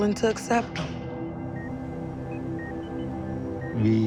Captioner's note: machine beeping